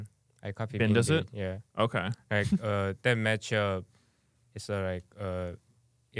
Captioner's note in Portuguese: risos